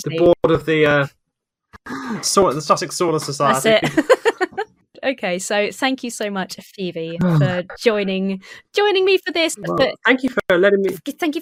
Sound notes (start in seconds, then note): 3.4 laughs